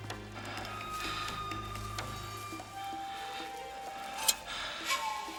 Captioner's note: man breathing heavily